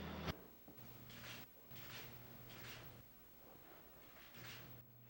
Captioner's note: cameras flashing